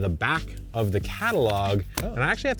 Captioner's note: paper shuffling